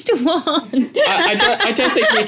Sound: laugh

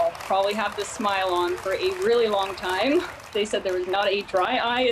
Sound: cheers and applause

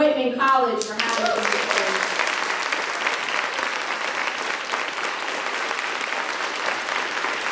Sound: audience applauding

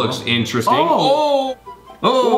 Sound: both yelling

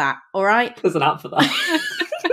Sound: laugh

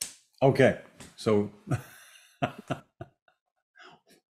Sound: laughs

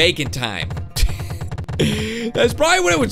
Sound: laughs

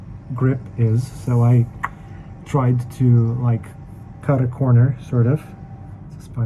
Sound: clicks tongue

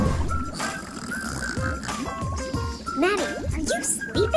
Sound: laughing; snoring

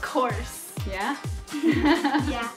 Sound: laughs

